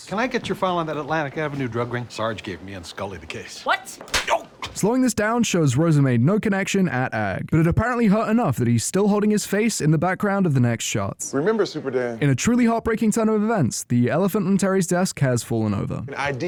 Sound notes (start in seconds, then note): 3.8 crisp slap ow ow